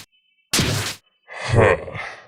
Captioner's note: sigh